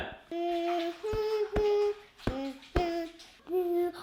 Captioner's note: humming; singing in comic operatic style